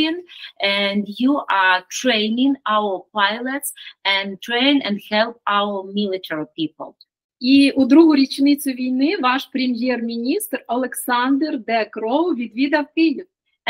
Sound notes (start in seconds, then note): 8.0 Ukrainian